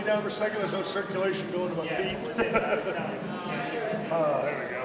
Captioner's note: chuckles